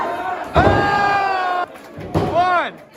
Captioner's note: crowd counts; crowd cheers